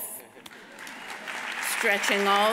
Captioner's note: audience applauds